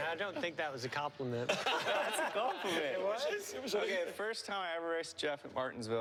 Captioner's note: laughter